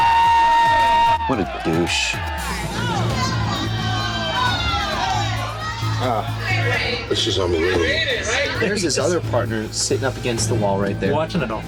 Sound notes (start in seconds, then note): 2.3 bar patrons chattering loudly